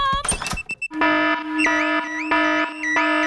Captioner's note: alarm blaring